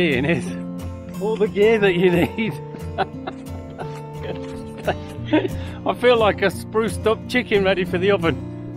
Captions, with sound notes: is all the gear that you need. (laughs) I feel like a spruced up chicken ready for the oven.